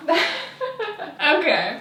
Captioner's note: laughing